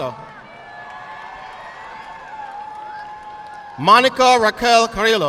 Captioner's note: audience clapping